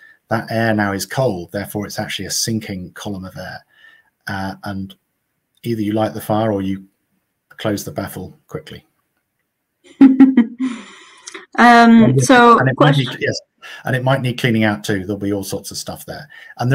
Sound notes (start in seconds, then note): 9.9 laughs